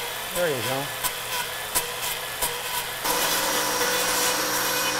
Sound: saw whirring

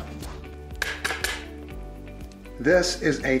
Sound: steel tapping on glass

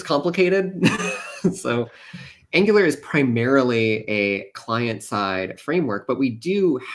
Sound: laughs

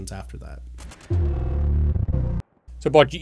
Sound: electric sound

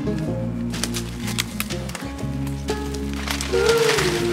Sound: branches cracking

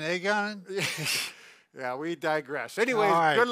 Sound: chuckles

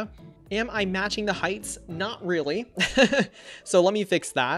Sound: laughs

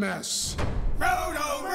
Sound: boom!

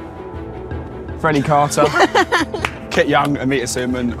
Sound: Amita and Jessie laugh

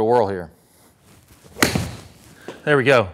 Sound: ball thwacks

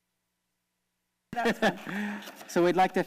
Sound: laughs

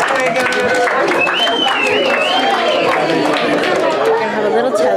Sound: whistling

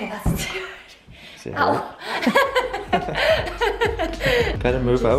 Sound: laughing

